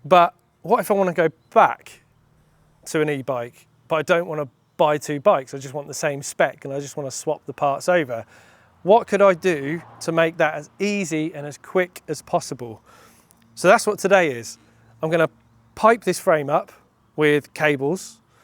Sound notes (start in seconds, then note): none